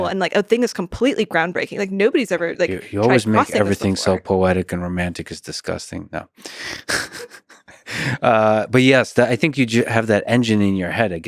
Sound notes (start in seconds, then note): 6.8 laughs